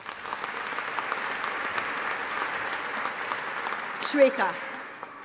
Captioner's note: audience applauding